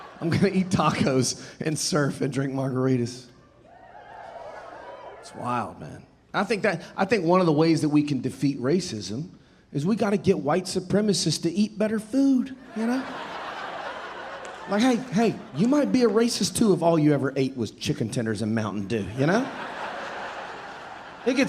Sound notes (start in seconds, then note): 0.0 audience laughing; 3.5 audience cheering; 12.7 audience laughing; 18.9 audience laughing